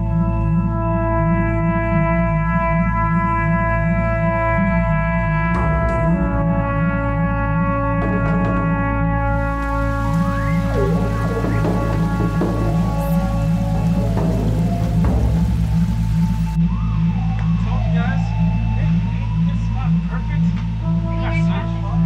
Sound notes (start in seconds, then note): 0.3 dreary trumpet music; 9.2 water rushes